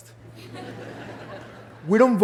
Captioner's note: laughter